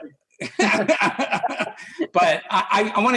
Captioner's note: laughs